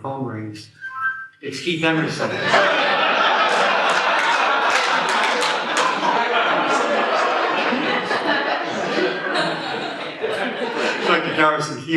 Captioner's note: audience phone rings, followed by laughter, unintelligible comments